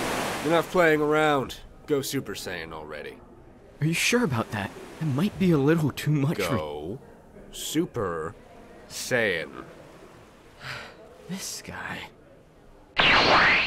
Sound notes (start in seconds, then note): 10.4 TRUNKS sighs